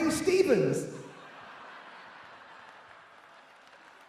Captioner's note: laughing